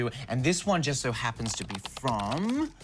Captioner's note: none